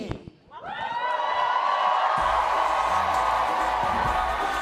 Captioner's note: audience cheers